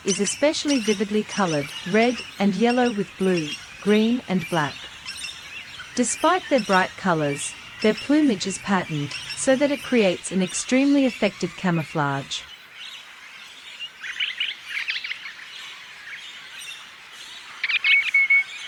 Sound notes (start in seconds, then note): 12.6 bird sounds